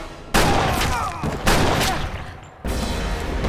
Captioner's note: both groan